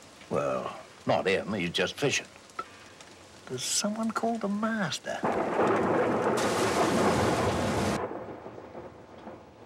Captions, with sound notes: Well, not here to me, they're just fishin'. There's someone called a master. (thunder crashing)